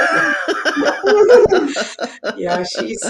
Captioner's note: all laughing